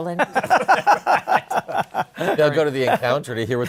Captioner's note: laughter